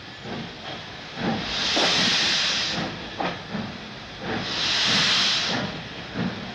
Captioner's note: train arrives